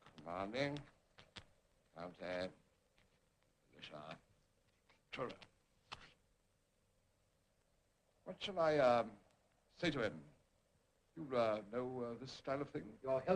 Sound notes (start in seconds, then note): none